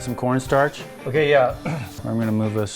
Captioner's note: clears throat